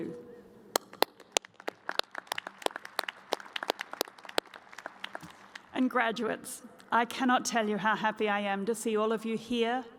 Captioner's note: applause